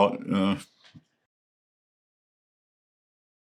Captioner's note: laughs